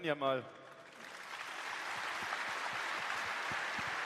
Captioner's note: applause